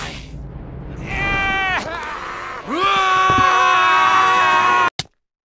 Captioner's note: Gaylord_Steambath and N00bly scream